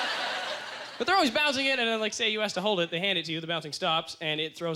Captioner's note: audience laughter